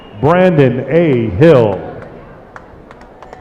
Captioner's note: applause